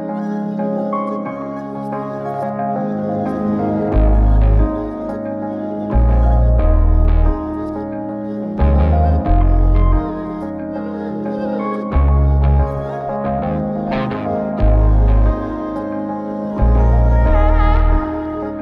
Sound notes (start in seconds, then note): 8.8 laughs